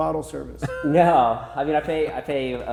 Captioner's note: laughing